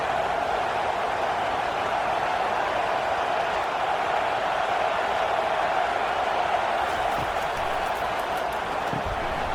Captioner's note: crowd Noises